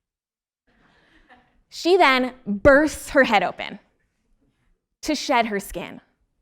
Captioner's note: laugh